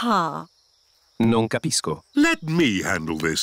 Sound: replies in italian

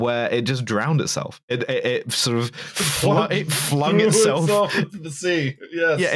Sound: laughing

